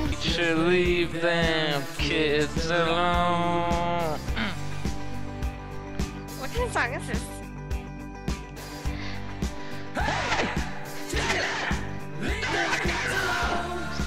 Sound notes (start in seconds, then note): 10.0 screaming; 12.3 screaming